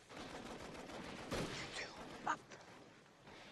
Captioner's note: whispering